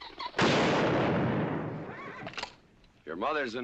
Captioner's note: firing; clicking